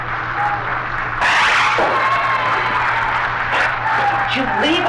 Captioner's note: door whooshes